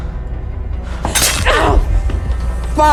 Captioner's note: wet slicing